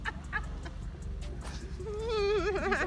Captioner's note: my brother laughing; background music